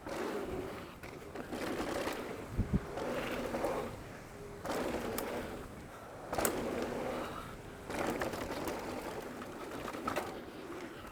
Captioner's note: bike revving